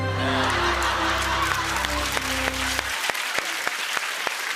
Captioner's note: laughter and applause